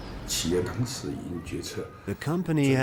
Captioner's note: speaking in foreign language